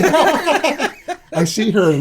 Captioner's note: laughter